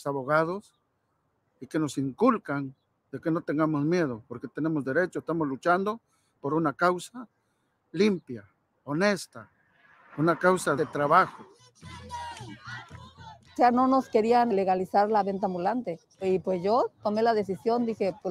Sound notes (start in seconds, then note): 11.6 crowd speaking in foreign language; 13.6 speaking in foreign language